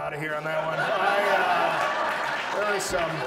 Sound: audience laughs

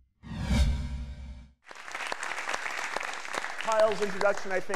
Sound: audience applauding

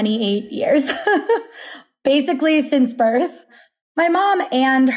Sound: laughing

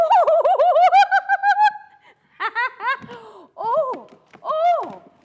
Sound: giggles

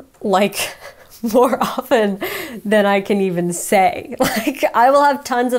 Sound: laughs

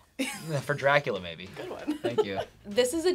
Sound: laughs

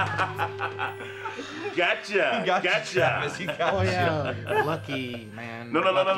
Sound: laughs

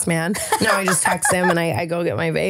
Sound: laughing

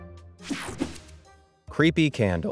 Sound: transition zapping

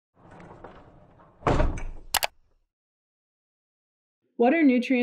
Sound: logo rolling and clicking

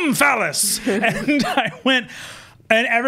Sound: gasps

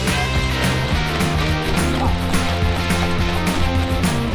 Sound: upbeat rock music; robot clanking

